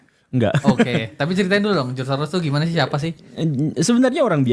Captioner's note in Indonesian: tertawa